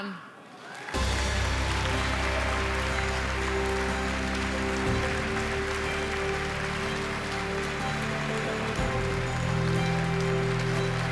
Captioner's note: applause